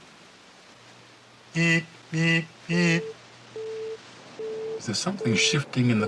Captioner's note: tone beeping